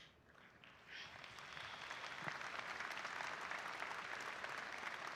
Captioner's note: audience applauding